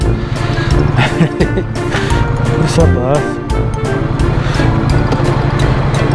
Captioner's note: laughs